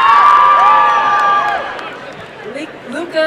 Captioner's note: applause and cheering